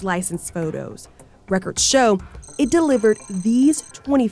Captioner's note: graphics blipping